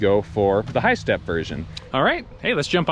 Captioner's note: whooshing air